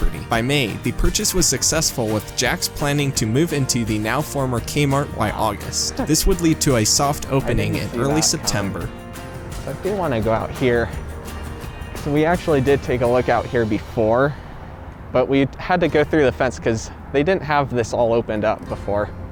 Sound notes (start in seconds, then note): 7.2 quiet but Distinct; 7.2 chuckles